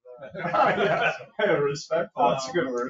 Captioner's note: all laughing